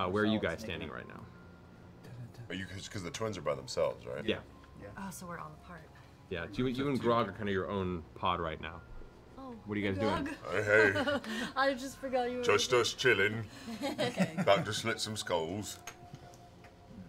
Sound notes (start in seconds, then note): 13.7 laughing